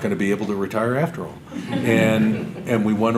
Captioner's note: audience laughter